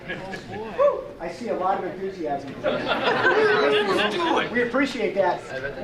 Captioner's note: audience chuckling